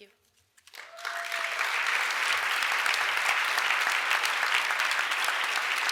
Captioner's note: crowd applauds and cheers